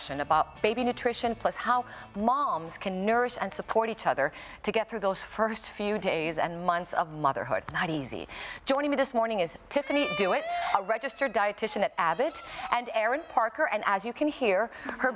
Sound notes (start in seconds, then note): 9.8 crying